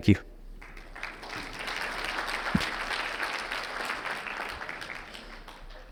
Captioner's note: audience clapping